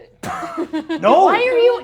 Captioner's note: all giggling